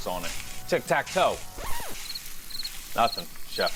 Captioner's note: record needle scratching; cricket chirping